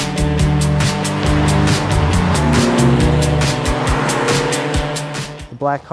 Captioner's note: engines accelerating